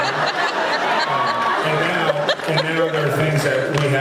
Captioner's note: laughs